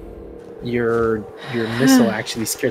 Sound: sigh of relief

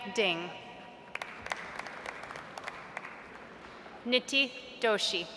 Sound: audience applauds

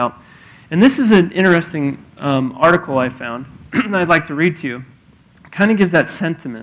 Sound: cough

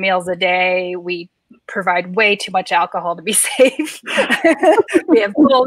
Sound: laughs

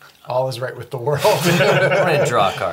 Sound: all laugh

